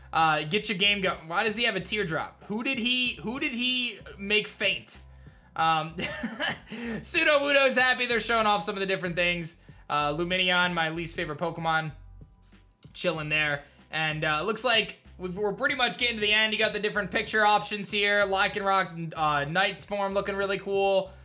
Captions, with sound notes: Get your game goi... Why does he have a teardrop? Who did he, who did he make faint? (giggles) Sudowoodo's happy. They're showing off some of the different things. Lumineon, my least favorite Pokemon, chilling there. And looks like we're pretty much getting to the end. You got the different picture options here. Lycaron night form looking really cool.